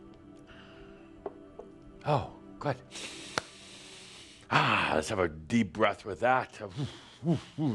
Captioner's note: takes a deep breath